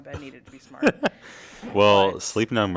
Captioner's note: laugh